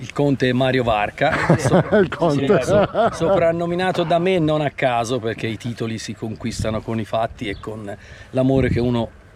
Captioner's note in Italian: risate